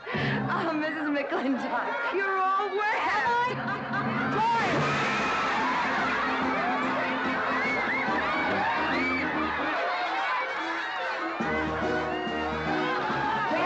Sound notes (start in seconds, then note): 4.7 splash; 5.9 crowd laughing & marveling